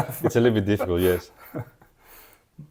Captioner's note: laughs